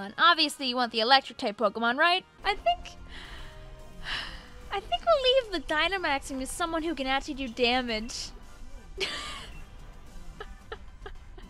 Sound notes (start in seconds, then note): 3.0 sighs; 10.2 laughs